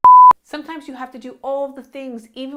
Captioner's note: beep